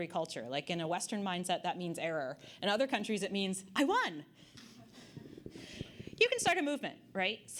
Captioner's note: audience Laughter